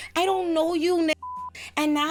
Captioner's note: beep